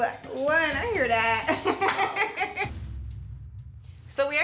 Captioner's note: Angela laughing